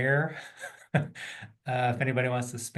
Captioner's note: laughing